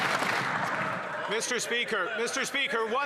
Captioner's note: some Applause